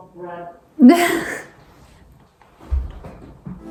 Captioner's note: laughing